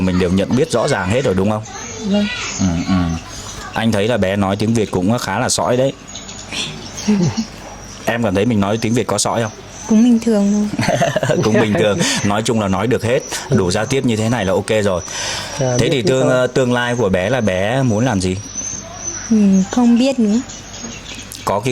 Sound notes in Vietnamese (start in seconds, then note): 10.7 tiếng cười